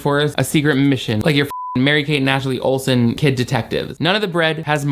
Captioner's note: beep